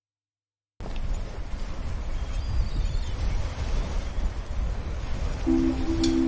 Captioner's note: sound of waves